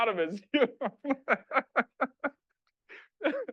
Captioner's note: laughing